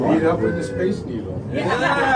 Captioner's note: chatter